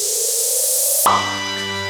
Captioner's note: pop